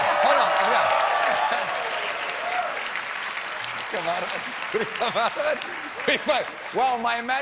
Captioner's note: applause